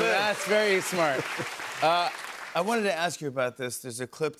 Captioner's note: applause